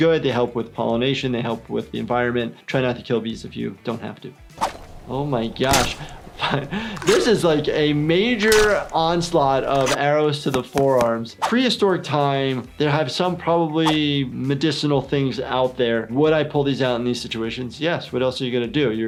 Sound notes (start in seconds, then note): 4.6 cracking; 6.0 chuckles; 7.1 cracking continues